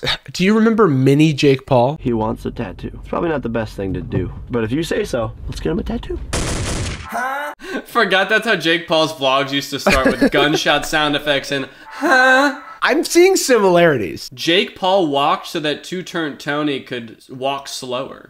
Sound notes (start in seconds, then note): 6.3 gunshots; 7.1 moan; 9.8 laughs; 12.3 moans